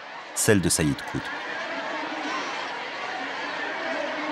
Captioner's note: crowd noises